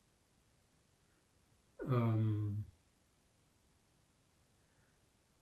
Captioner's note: pauses 6 seconds